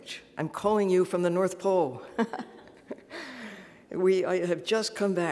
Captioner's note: laughs